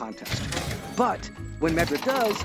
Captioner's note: mechanical doors activating